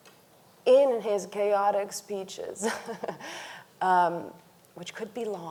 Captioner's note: laughs